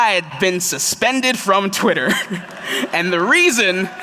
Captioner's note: applause